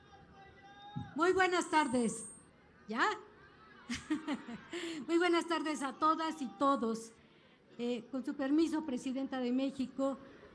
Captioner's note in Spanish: risas